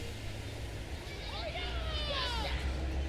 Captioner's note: kids playing